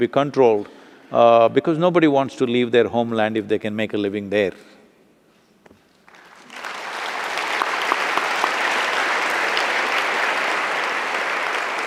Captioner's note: applause